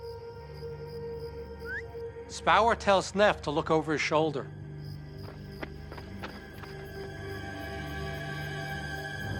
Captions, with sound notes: [whistles] Spaur tells Neff to look over his shoulder.